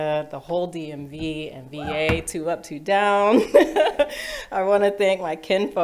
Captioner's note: laughs